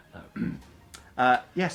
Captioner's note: laughs; clears throat